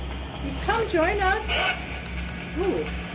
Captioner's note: spirit box yells